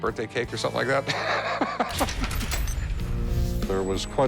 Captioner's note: both laughing